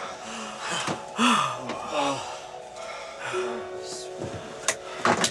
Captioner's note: pilots sighing, breathe heavily